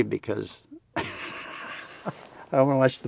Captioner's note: laughs